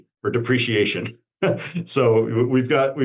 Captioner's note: laughs